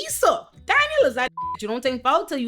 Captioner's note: beep